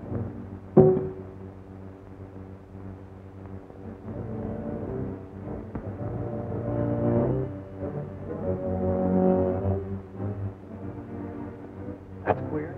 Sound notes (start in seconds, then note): 0.8 clang